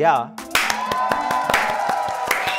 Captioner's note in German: Jubel, Applaus